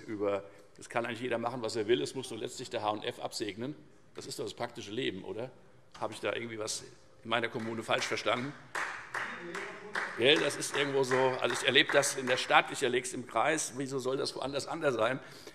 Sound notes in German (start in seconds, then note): 8.6 Beifall Freie Demokraten - Zuruf